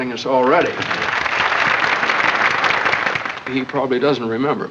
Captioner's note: applause